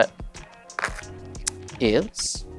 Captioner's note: cards riffling